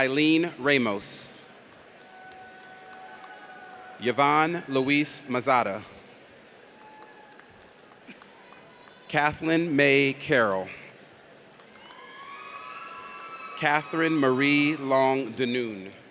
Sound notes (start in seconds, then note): 2.1 audience cheers; 11.6 audience cheers